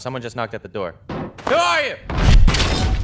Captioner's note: door knocks